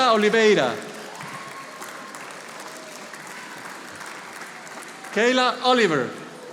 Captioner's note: audience applauding